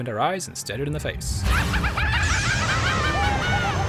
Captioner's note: maniacal yet scientific laughter